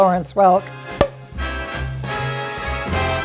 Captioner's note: pop!